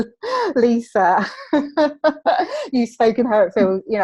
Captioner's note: laughs